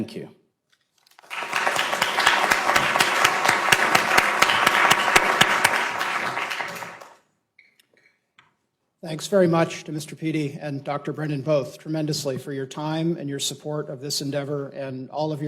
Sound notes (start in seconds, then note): 4.6 applause